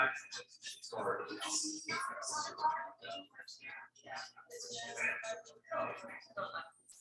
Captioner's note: people chattering indistinctly continues